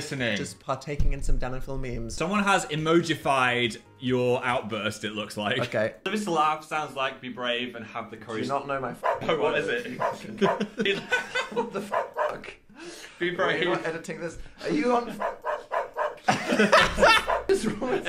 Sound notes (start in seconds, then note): 11.8 dog barking; 12.6 Phil laughs; 15.1 dog barks; 16.1 Dan laughs; 16.1 Phil laughs; 17.0 dog barks